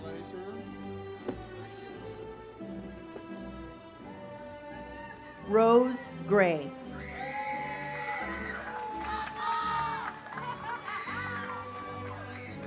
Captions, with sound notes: - Jake, congratulations. (uplifting music) - Rose Gray. (audience cheers) (uplifting music)